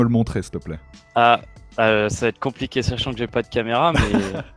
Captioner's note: laugh